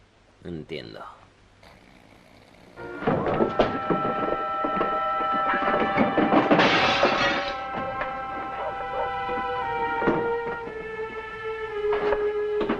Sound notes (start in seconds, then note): 1.3 suspenseful music; 1.6 Hodges snores; 6.5 glass smashes